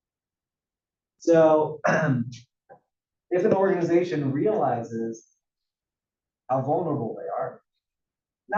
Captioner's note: cough